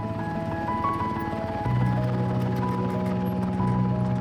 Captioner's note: motor rumbling